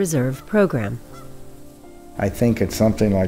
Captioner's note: geese honking